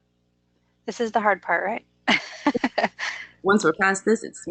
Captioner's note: laughs